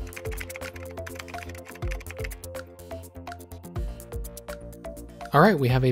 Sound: keyboard clicking; upbeat music

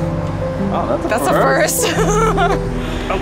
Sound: laughter

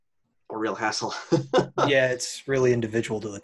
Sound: laughs

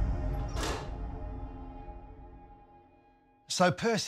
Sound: door slams shut

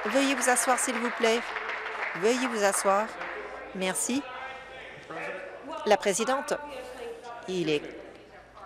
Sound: applause

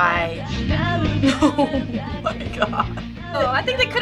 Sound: giggling

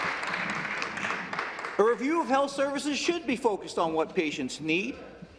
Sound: applause

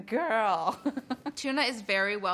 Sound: laughs

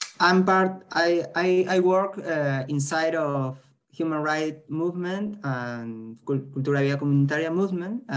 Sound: spanish

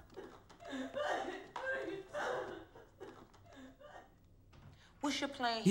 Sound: sobbing

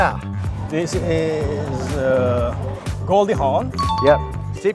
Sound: bell ding

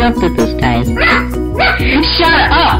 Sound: unepically barks

